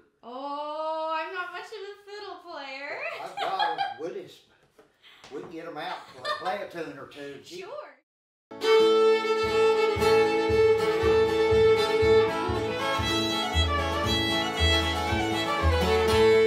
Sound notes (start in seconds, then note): 3.1 chuckling; 8.5 upbeat instrumental music